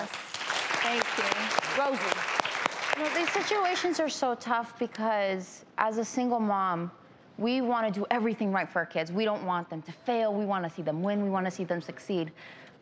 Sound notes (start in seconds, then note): 1.8 audience applause